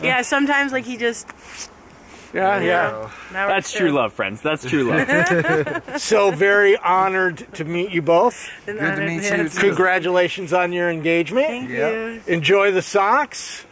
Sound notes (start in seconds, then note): 4.7 laughter